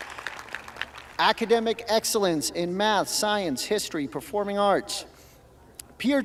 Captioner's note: applause